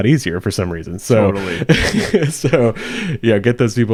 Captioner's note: laughing